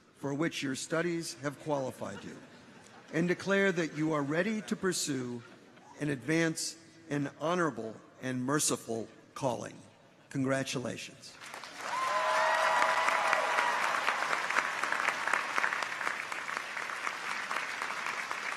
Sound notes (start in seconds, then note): 11.4 audience applauds; 11.6 people cheer